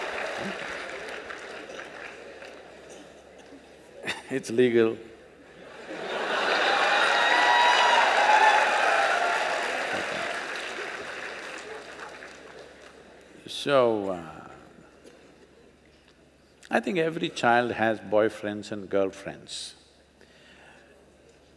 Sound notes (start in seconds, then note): 0.0 laughter/Applause; 3.6 laughs; 8.7 cheers/Laughter